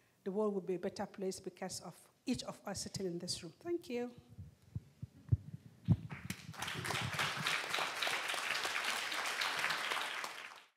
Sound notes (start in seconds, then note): 6.0 audience applauding